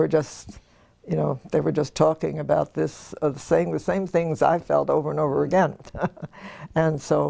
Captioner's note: laugh